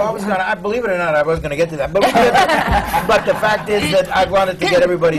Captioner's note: laughter